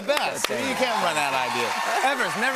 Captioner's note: cheers and applause